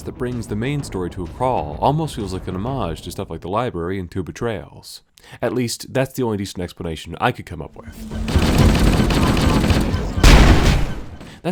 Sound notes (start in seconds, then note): 8.0 gunfire; 10.2 pop!